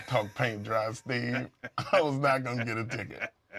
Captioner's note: laugh